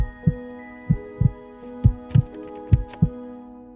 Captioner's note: the floorboard creaks